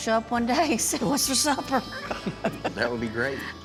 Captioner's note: laughs